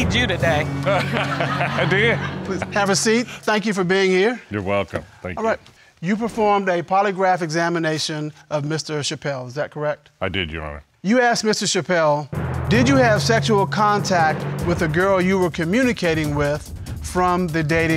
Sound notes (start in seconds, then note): 0.8 laughs